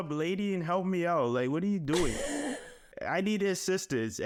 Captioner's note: laughing